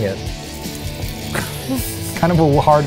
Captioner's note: wine splashing; laughs